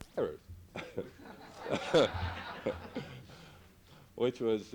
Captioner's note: laughter